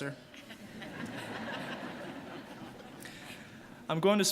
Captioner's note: audience laughing